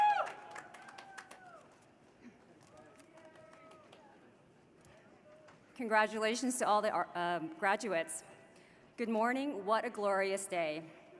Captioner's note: cheers and applause